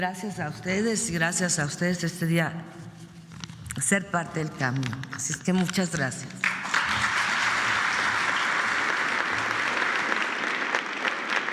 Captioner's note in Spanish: aplausos